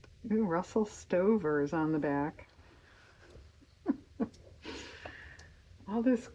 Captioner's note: laughs